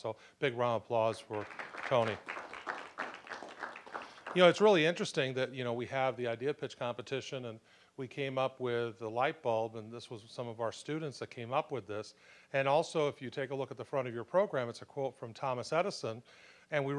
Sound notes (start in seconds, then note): 2.9 applause